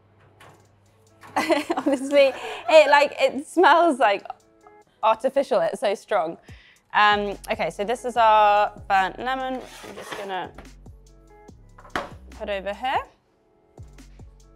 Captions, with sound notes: (laughing) Obviously, it smells like artificial it's so strong. Okay, so this is our burnt lemon I'm just gonna put over here.